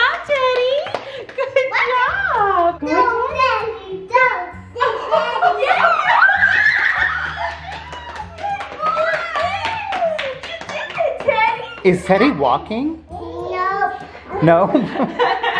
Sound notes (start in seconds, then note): 5.7 everyone cheers and applauds